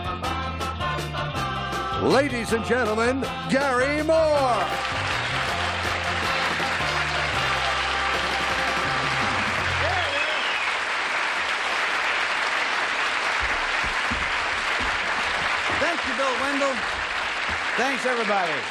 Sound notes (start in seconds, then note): 0.1 theme music; 5.5 applause